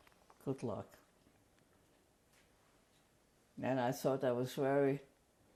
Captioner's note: pauses for 3 seconds